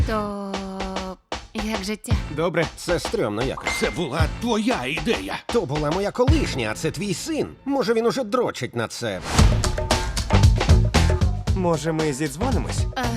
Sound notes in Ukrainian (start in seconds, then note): 3.6 дзвінок телефону